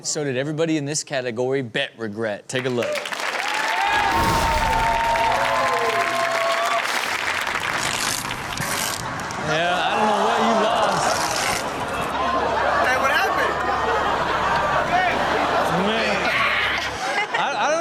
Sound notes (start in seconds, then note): 3.6 audience cheering and clapping; 7.7 tape swishes; 11.0 audience laughs; 15.7 audience laughs